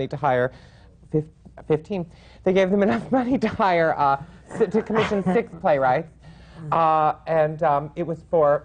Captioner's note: laughs